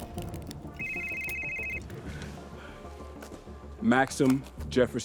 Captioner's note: phone rings